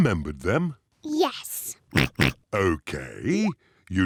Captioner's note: oinks